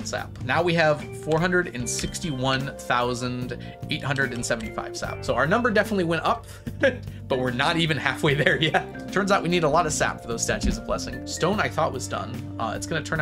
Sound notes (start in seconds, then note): 6.8 laughs